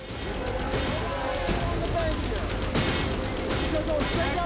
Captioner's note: rescuers shouting